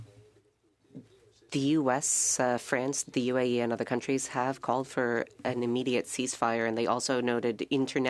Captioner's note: speaking French